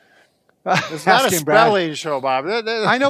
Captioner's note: laughs